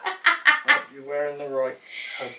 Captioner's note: cackles happily